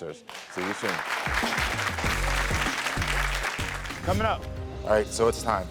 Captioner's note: audience applaud